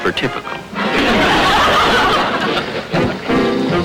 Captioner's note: audience laughter